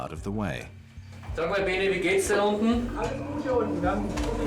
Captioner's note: men speaking Georgian